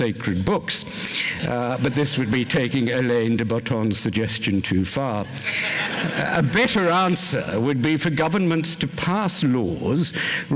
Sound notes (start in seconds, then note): 5.2 laughter